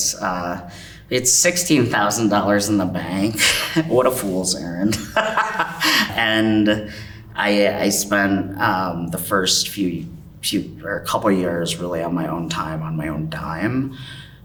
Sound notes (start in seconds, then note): 3.3 chuckles; 4.8 laughs